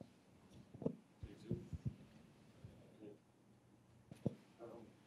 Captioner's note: speaking faintly